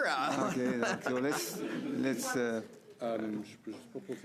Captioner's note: laughter